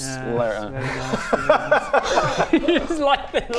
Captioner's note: mocking laugh